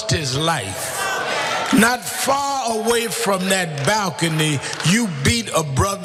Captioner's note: applause